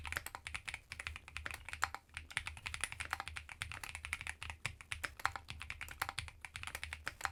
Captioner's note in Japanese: 打鍵音チェック中